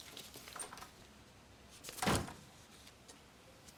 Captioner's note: door opens and closes